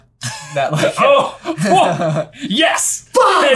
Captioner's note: laughter